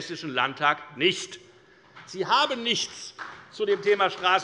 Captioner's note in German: Beifall bei der FDP und der CDU